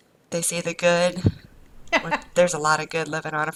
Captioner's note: laughs